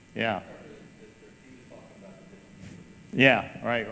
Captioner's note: person speaking off mic